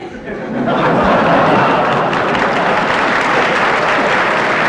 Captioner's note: audience laughter